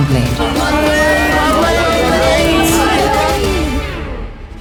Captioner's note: girls shouting